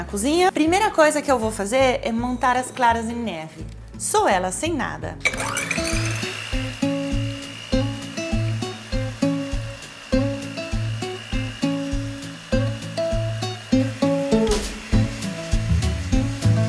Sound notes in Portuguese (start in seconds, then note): 5.1 som da batedeira; 7.5 música animada